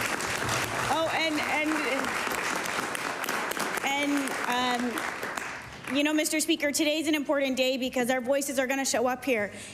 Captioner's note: applause